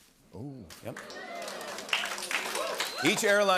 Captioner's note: applause